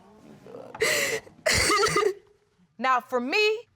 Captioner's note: continues sobbing